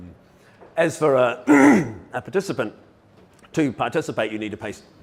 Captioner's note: coughs